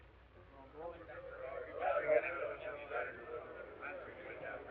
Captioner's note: members chattering